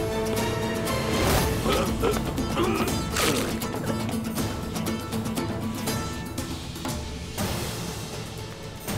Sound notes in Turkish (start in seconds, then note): 2.5 Boyun kırma sesi